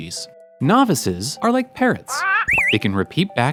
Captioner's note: parrot squawks